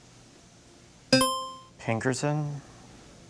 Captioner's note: buzzer chimes